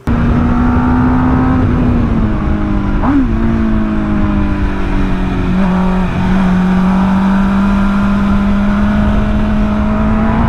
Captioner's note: engine roar